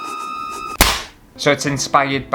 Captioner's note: hat Whooshing; smack!